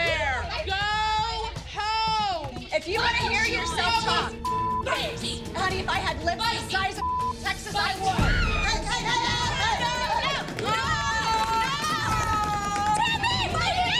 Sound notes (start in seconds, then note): 9.8 shouting